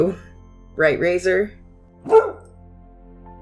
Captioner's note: dog bark